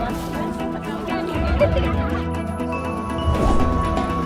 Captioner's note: laughing